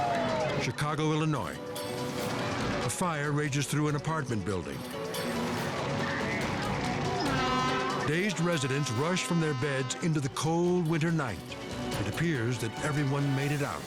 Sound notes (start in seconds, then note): 0.0 operator chatters; 7.0 horn blares